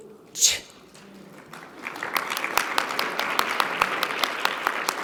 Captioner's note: audience clapping